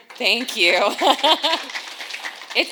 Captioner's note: audience applauds